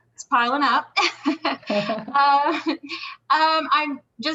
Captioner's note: laughing loudly